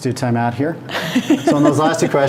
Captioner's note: laughing